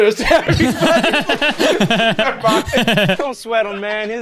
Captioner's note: pair laughs